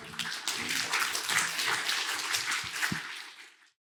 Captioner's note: applause